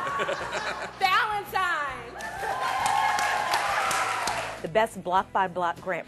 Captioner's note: cheers and applause